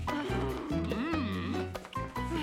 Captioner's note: grunts; growls